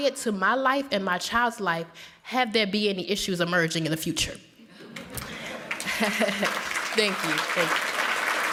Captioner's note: applause